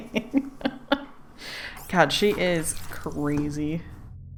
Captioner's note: laughs